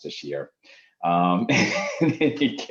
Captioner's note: chuckles